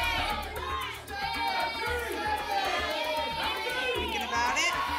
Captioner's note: audience shouting numbers